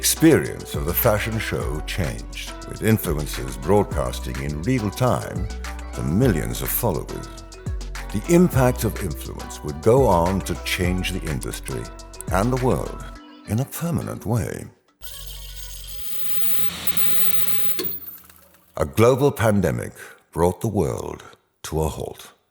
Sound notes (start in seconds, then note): 15.0 tape rewinding; 15.5 static crackling